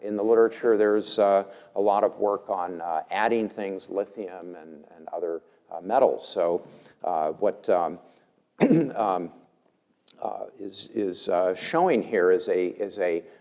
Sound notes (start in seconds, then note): 8.6 cough